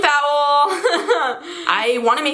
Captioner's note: dry laughter